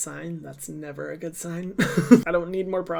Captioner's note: laughs